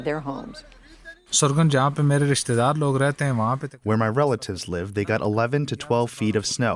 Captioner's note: through translator